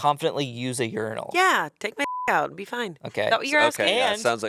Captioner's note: beep